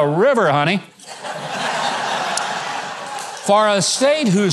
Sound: audience laughing

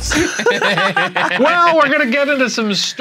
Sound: laughing

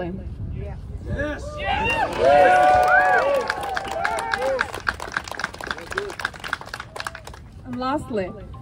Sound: applause

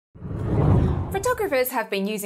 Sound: hard whooshing

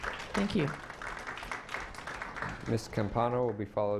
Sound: clapping

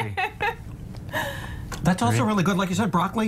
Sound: laughter

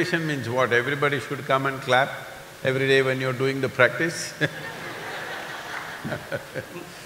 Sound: laughter

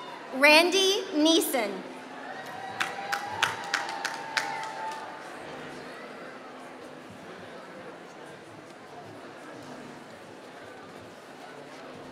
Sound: applause

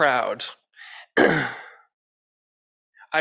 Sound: clears throat

